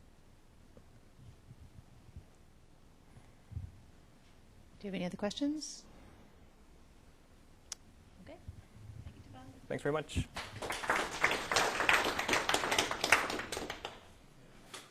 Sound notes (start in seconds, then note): 10.3 applause